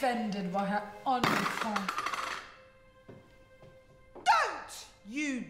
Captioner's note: item clattering